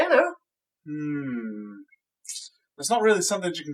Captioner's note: tsk